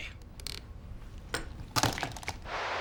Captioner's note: clatters; static sounds